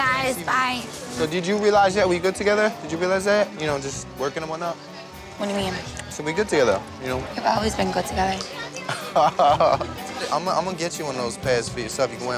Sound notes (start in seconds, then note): 8.9 mike laughs